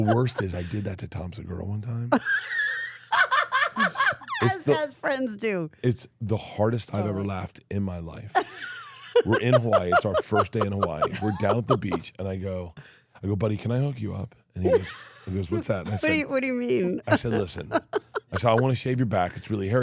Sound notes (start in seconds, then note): 2.2 laughs; 8.4 laughs; 16.8 laughs